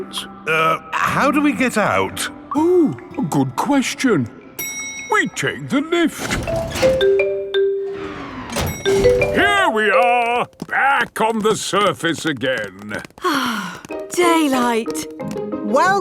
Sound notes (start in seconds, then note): 6.2 elevator dings; 13.2 sighs